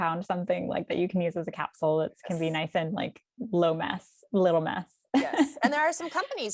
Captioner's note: chuckles